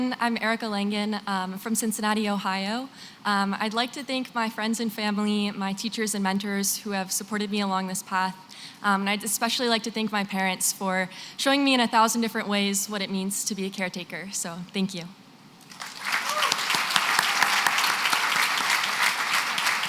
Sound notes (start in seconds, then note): 15.6 applause